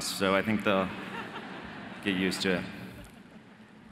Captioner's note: audience laughing